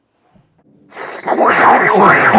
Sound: sucking sounds

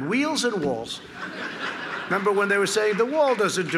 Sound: laughter

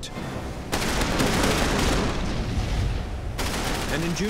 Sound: anti-missile shots exploding

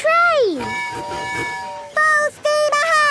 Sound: tooting

